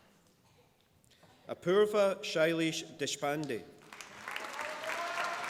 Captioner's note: applause